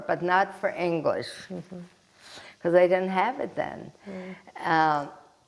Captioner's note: wiping nose